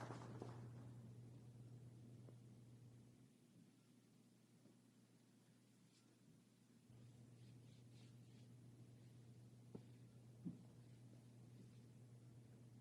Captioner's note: applause